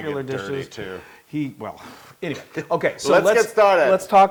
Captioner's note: laugh